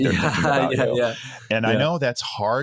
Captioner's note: laughing